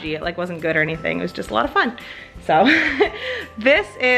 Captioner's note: laughs